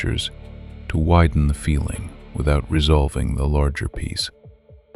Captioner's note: soft voice